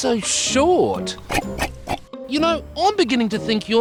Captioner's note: grunts